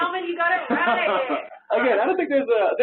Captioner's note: laughing